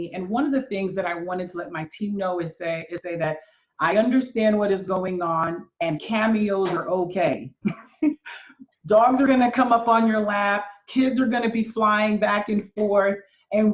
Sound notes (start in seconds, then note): 7.6 laughs